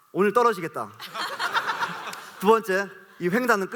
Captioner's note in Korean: 웃음